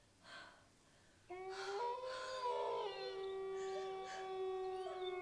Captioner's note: wolves howl and whimper